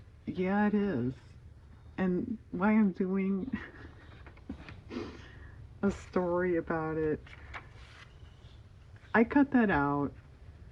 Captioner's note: laughs